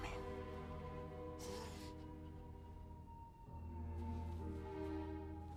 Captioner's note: breathes sharply